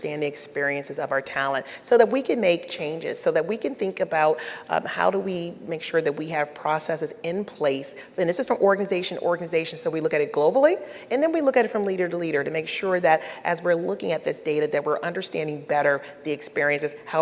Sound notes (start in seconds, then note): none